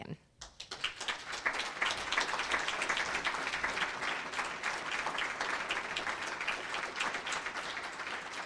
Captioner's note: applause